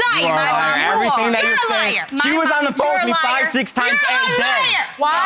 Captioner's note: screams